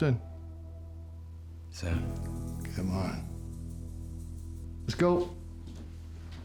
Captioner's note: scottish accent